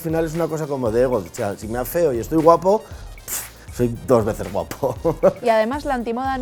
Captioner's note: laughs